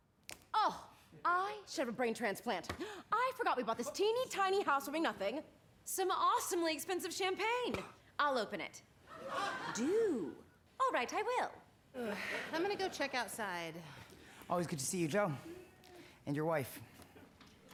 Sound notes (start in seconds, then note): 7.1 imitates cork popping